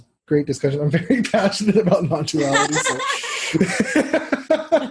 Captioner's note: laugh